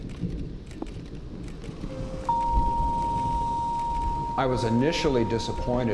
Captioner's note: cameras clicking